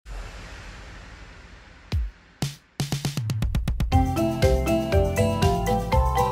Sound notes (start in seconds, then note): 0.0 space shuttle whooshing; 2.1 bright upbeat music